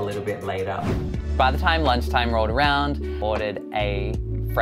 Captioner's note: voiceover